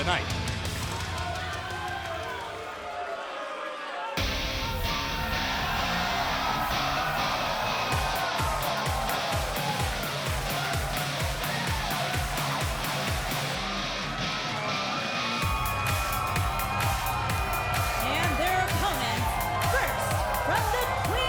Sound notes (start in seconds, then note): 6.4 crowd cheering